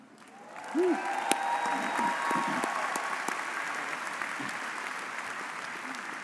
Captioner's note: audience cheering and applauding